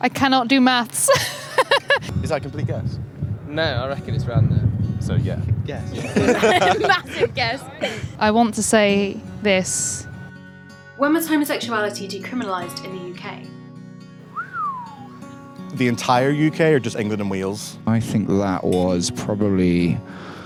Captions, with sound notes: - I cannot do maths. (laughs) - Is that a complete guess? - No, I reckon it's right on there. - So yeah. - Yeah. (laughter) - That's a guess! - I want to say this. - When was homosexuality decriminalised in the UK? (whistles) - The entire UK or just England and Wales? - I think that was probably...